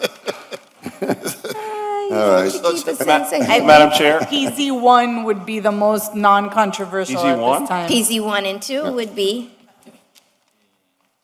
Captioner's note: laughter